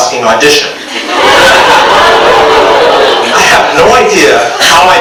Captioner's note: audience laughs